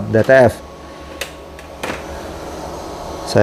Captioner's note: printer cover noise